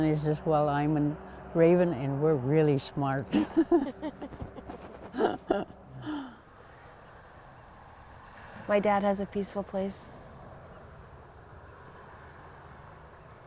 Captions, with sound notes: And I says, well, I'm a raven, and we're really smart. [ Laughing ] >> My dad has a peaceful place.